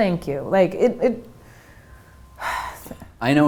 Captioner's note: sigh